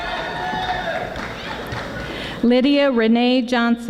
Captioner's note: audience applauding